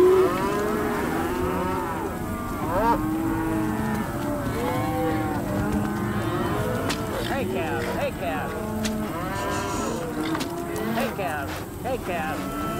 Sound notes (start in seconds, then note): 0.1 cattle mooing; 4.0 horse trotting; 6.8 whip & herding